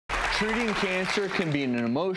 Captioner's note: audience applause